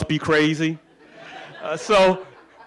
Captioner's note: laughing